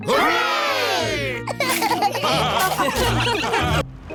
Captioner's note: laughter